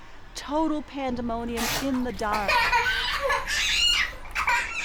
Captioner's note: child screaming, crying